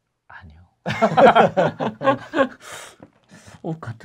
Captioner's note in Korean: 웃음